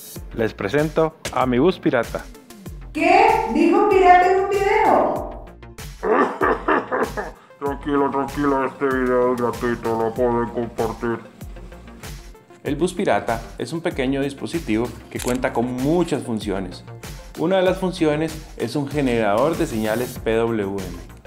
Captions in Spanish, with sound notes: Les presento a mi bus pirata. ¡Qué dijo pirata en un video! [tos de pirata] Tranquila, tranquila este video es gratuito, lo pueden compartir. El bus pirata es un pequeño dispositivo que cuenta con muchas funciones. Una de las funciones es un generador de señales PWM.